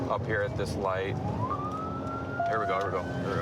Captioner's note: sirens